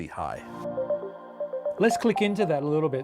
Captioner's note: screen chiming